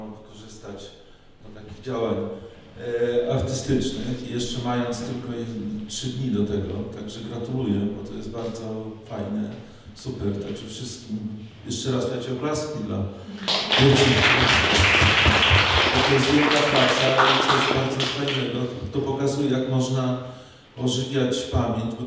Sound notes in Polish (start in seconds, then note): 13.3 oklaski